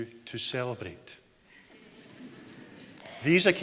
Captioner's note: audience chuckles